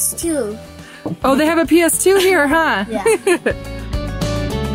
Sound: laughs; bright upbeat music

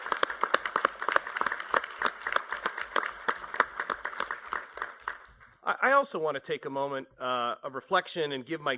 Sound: applause

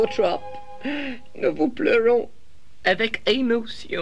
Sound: sobs

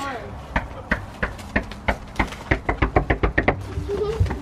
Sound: knocking on door

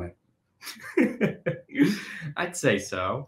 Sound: chuckling

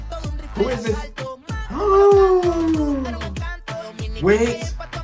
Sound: gasps

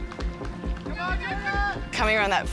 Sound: suspenseful music; people cheering

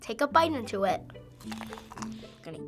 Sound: crunching

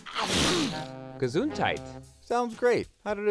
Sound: sneezing

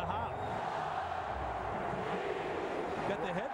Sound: chanting

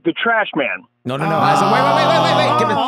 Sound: groaning

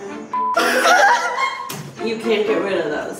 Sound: laughs

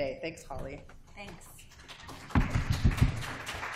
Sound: applause

